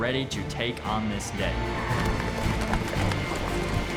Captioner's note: hoofbeats